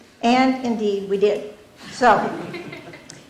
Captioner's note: laughter